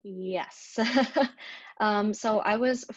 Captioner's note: laughs